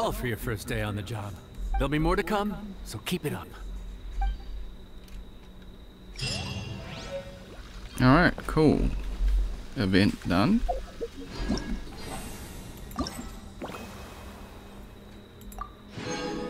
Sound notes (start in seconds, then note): 5.4 water bubbling